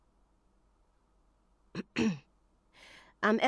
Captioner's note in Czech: ehm = odkašlání